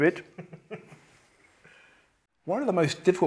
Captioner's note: chuckles